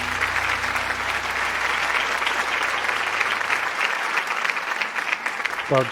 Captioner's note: applause